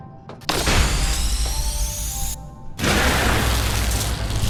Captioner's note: gunshot